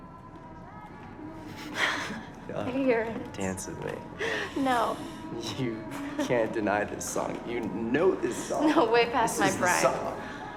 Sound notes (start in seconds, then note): 1.2 chuckles